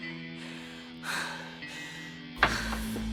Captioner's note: heavy breathing